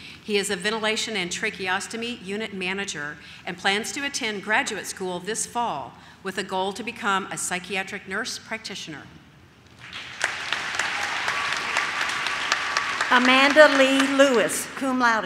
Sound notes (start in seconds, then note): 9.7 audience claps